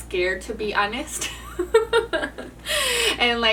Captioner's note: laughs